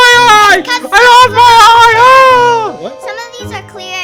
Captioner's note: wailing